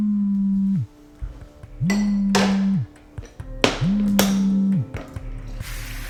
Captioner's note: soft intriguing music; cellphone buzzing